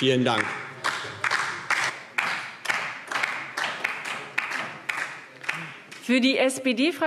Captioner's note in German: Beifall DIE LINKE